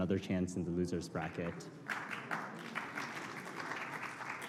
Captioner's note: applause